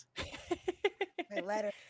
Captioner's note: laughs